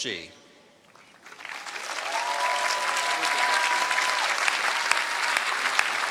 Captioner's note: cheering